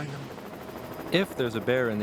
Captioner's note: helicopter engine roaring